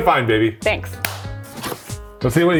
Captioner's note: hands slap